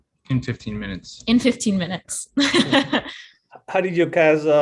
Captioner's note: chuckles